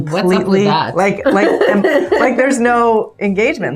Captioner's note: laughs